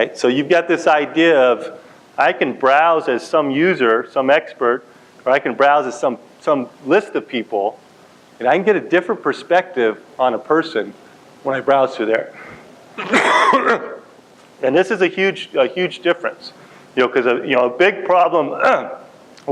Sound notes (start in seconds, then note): 12.9 coughs; 18.5 clears throat